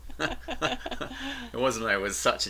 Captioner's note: laughing